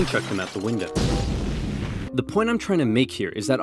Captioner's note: explosion